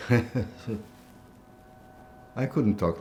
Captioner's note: laughing